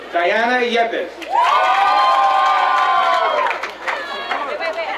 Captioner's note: crowd cheering